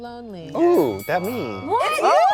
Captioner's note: bell dings